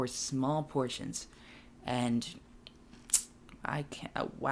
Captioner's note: smacks lips